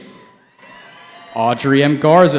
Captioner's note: cheering